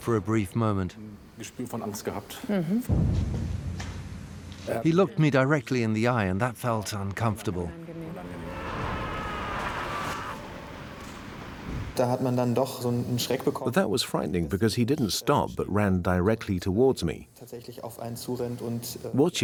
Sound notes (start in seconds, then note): 9.8 soldier screams; 13.0 in German; 14.7 dubbed in English